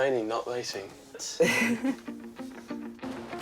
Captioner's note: laughs; upbeat music